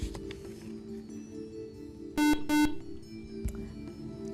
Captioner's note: buzzer